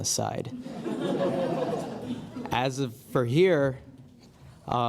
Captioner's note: laugh